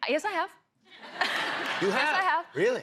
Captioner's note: laughter